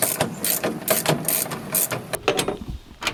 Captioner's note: ratchet hitting metal door; ratchet twisting